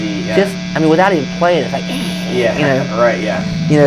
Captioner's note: imitating static